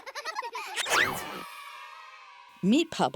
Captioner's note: children laughing; children cheering